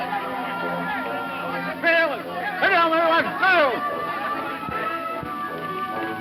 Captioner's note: speaking in foreign language